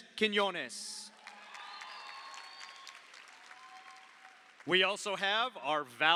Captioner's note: audience cheers; audience applauds